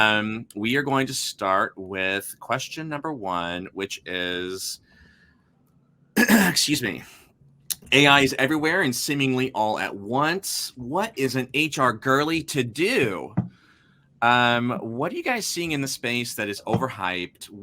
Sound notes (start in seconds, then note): 6.2 clears throat